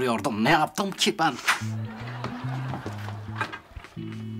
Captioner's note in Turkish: Gülme efekti